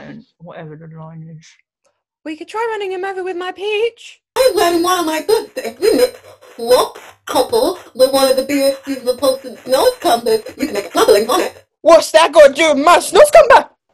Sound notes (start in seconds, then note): 4.4 distorted audio